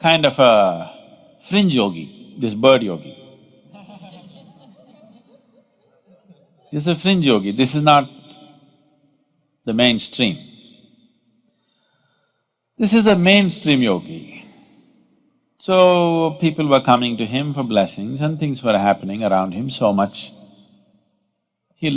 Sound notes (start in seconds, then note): 3.6 laughter